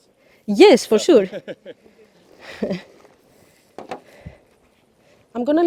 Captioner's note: laughter